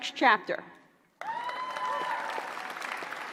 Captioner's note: applause